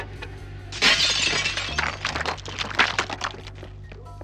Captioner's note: mellow music; glass shattering